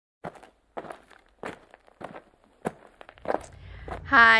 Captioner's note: crunching gravel